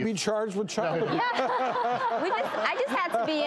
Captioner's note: crowd laughs